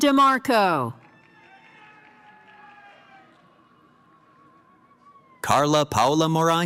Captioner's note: cheering